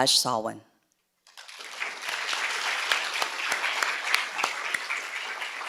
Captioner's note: audience clapping